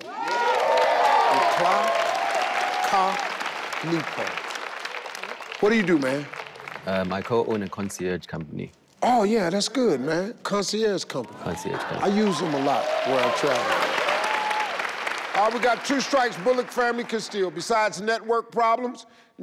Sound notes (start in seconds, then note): 0.1 everyone applauding and cheering; 13.8 audience applauding